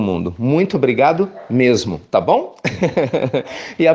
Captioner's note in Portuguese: risos